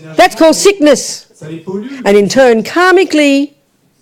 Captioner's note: audience member speaks in French